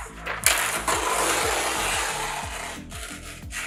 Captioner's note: paper tearing